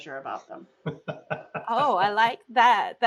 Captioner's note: laughs